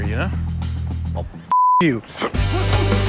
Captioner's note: beep; Dalton grunting; punches thudding